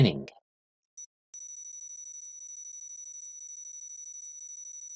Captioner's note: beeping